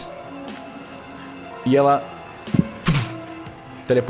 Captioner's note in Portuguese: vush